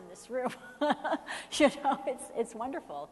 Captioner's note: laughing